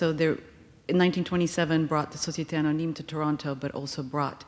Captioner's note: speaking foreign language